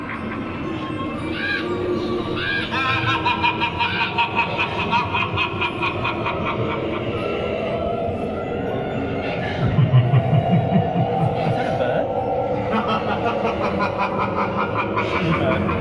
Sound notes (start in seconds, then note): 1.3 crow caws; 1.6 The Phantom laughs